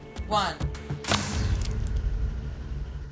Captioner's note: whooshing and splatting